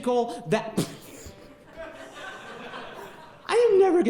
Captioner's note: laughing interrupts speaker